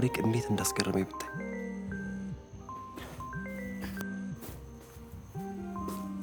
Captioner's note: phone ringing